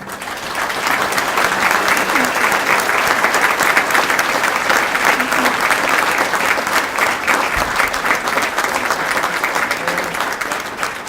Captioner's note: applause